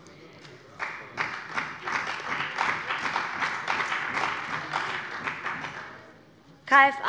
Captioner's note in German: Beifall bei dem BÜNDNIS 90/DIE GRÜNEN und der CDU